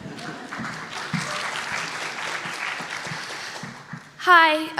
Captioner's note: laughter; applause